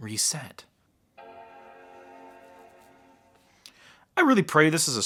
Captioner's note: startup sound